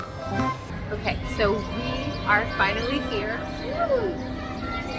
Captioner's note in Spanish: campanas de la iglesia